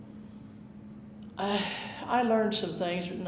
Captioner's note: breathing deeply